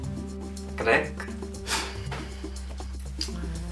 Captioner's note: sigh